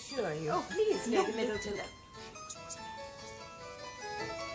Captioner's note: whispers